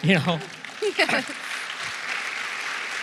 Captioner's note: applause